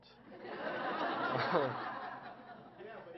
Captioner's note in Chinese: Laughter; 笑聲